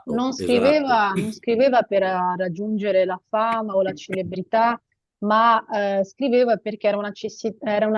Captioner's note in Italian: schiarire la voce